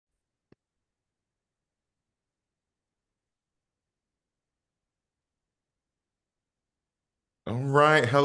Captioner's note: silence